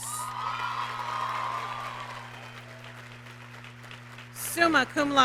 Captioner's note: audience applauds and cheers